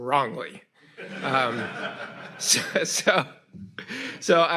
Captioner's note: audience laughs